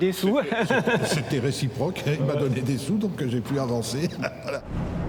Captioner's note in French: rires; rires